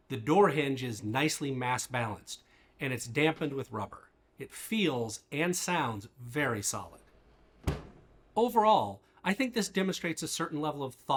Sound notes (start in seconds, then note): 7.6 door thuds